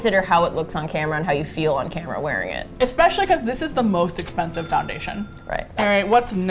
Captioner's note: ka-ching sound